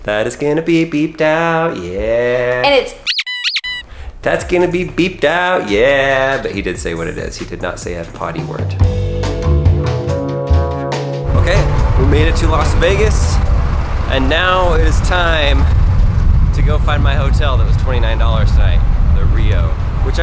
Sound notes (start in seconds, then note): 3.0 squeaking